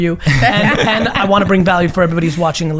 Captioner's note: laughs